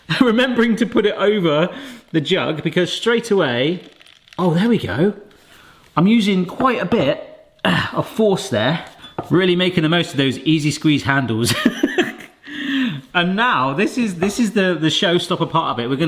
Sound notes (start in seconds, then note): 11.5 chuckles